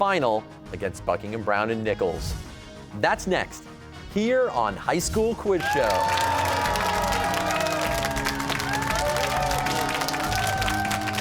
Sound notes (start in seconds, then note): 5.6 cheers and applause